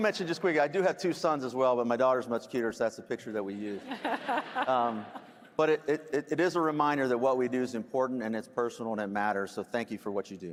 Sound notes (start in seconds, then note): 3.7 laughter